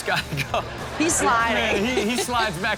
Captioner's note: crowd laughs